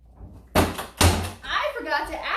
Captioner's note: closet banging